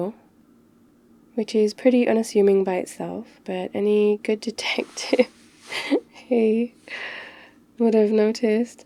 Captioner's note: grab attack -laughs